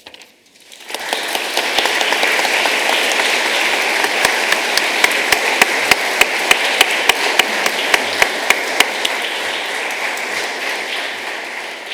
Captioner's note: applause